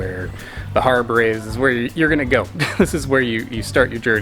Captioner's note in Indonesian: tertawa